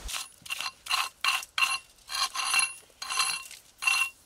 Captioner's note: tool scraping